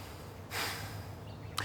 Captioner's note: sigh